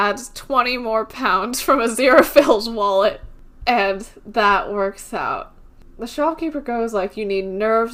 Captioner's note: laughs